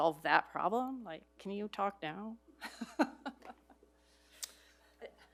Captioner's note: laughs